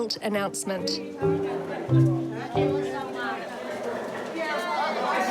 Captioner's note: indistinct crowd chatter